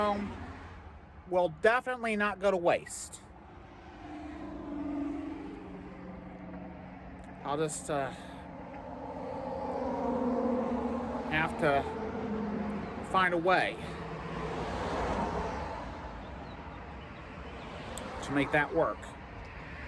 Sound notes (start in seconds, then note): 2.9 stammers